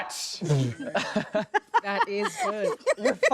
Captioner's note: laughing